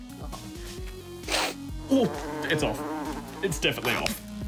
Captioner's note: sniffs, gags; fly buzzes